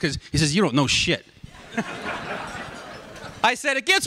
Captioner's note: laughter